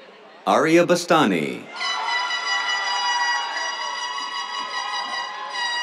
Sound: cheers, air horn blaring

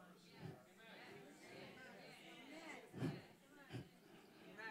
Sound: congregation chattering

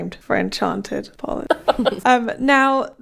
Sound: laughing

